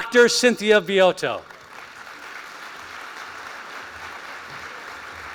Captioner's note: applause